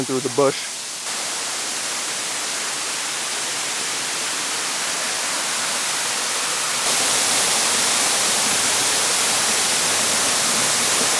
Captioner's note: waterfall